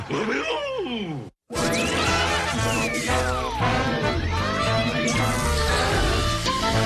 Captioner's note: electricity crackling; whimsical music